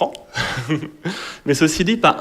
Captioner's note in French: Rires